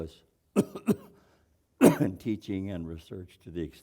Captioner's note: cough